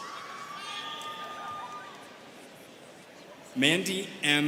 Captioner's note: students cheering